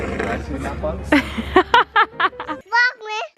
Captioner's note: mom laughing